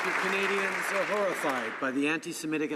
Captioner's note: some Applause